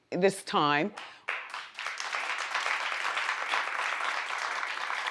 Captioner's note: audience applauds